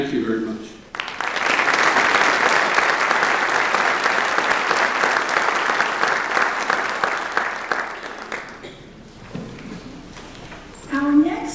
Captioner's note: applause